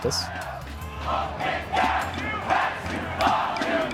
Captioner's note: chanting